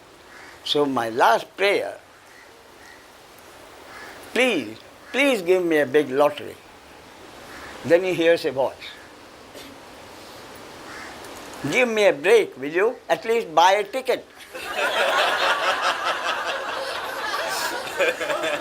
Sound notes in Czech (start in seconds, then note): 14.4 smích